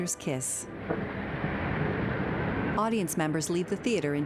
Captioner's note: traffic din